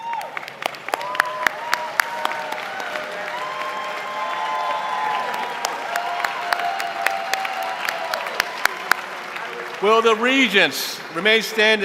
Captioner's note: applause